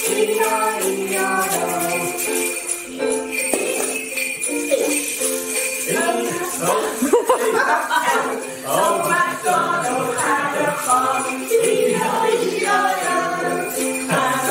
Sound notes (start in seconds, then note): 6.6 laughs